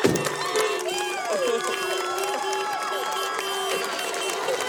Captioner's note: car horns and clapping